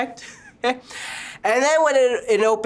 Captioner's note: chuckles